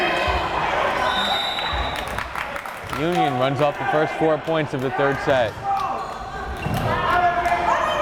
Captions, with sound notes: (whistle blares) Union runs off the first four points of the third set,